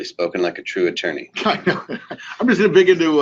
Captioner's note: laughs